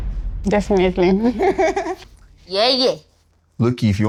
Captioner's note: laughs